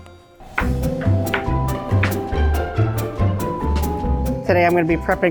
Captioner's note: knife clicks on counter as it slices